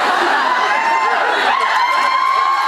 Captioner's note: laughs; cheers